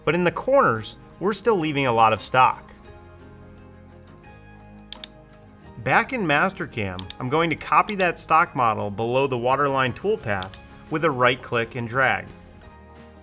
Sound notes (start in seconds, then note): 3.2 soft music; 4.9 mouse clicking; 13.0 soft music